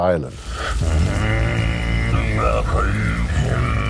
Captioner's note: droning Continues